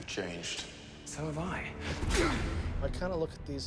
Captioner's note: grunting